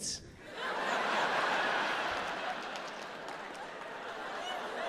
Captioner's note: audience laughs